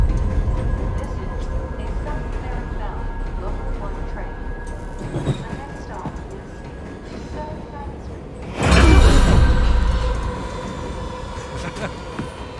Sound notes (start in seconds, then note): 0.2 announcer over PA; 8.1 gasps; 11.3 masked passenger laughs